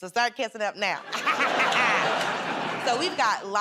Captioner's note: laughter